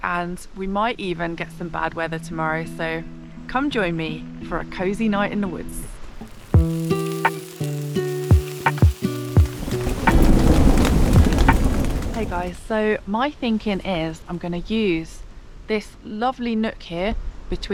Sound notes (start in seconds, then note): 6.1 sizzle; 10.0 rain & thunder